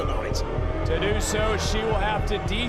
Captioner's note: audience booing